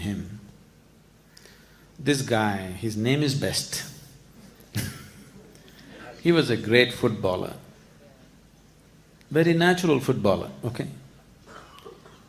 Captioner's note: laughs